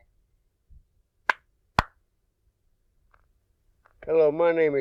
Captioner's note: claps